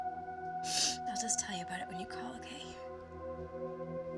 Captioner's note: sniffles